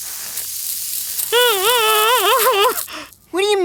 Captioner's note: sizzling